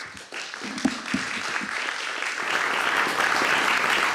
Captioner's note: applause